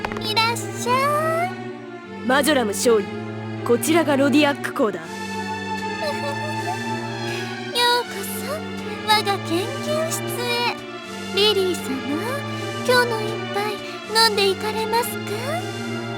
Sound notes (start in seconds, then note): 6.0 giggle